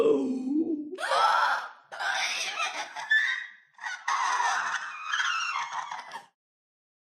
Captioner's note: groaning/gasping; screeching gasps